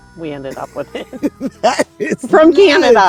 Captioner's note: laughs